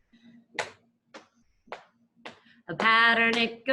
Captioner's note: claps